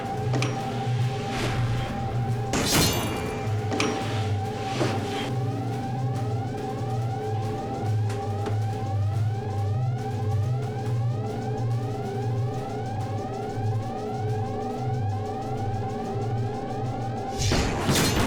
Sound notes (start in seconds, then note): 1.6 metallic twang; 16.6 air whooshes